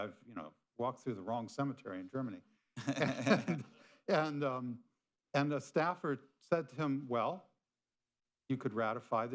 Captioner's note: laughter